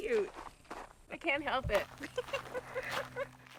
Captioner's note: giggles